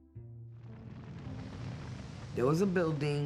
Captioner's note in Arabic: هدير النار